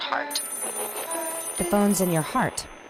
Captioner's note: telephone ringing